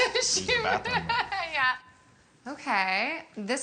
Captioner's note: laughs